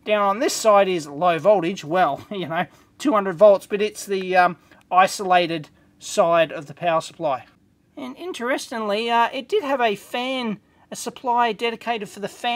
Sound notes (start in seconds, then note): none